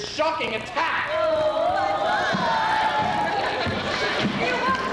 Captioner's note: women mockingly groaning